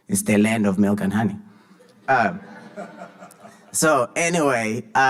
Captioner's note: audience laughing